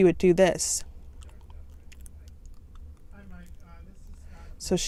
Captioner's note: chewing